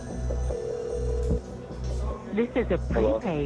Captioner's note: phone rings